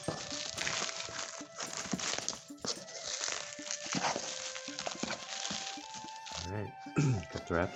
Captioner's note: more rustling